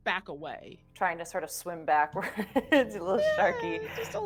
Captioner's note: laughing